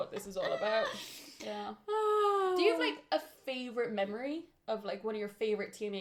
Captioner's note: laughter